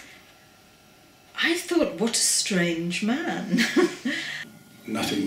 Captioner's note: laughs